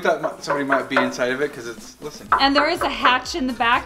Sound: knocking

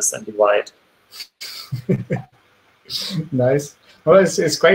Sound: laughs

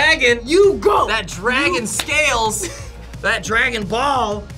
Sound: laughs

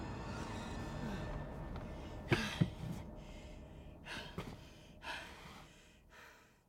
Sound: eerie sound; hard breathing; silence

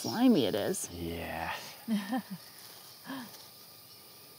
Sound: laughs

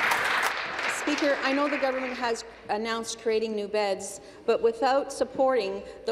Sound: applause

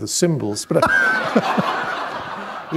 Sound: laughter

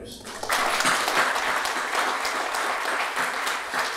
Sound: audience applauding

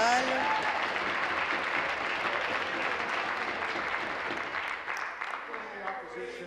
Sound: applause

